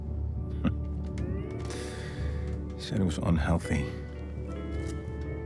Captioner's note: laughs; slow Hawaiian music